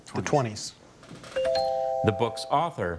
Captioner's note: bell chimes